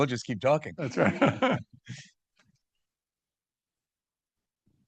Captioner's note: participants laughing